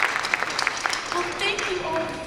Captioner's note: applause